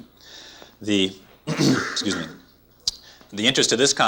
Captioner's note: clears throat